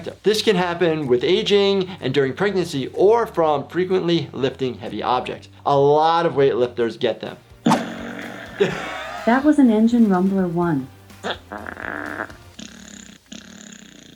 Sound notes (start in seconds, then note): 7.6 Alexa farting; 11.1 Alexa farting